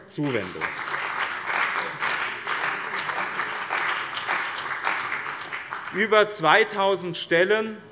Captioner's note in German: Beifall bei dem BÜNDNIS 90/ DIE GRÜNEN und der CDU